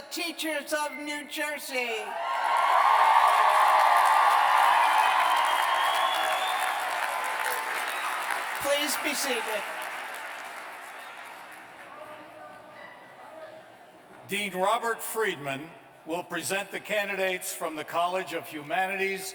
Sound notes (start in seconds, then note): 2.1 cheers and applause